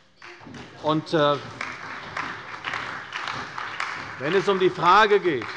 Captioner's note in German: Beifall bei der CDU